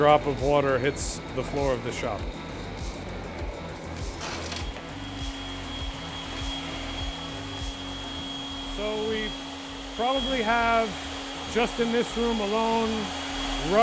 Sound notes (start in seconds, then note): 3.3 machine whirring; 3.3 upbeat music